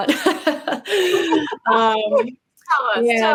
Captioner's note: laughing